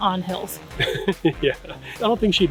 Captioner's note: laughing